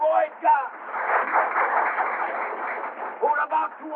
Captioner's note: applause